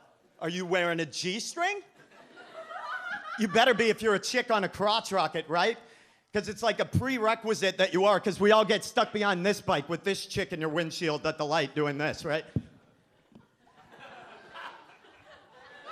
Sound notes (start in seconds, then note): 2.0 audience laughs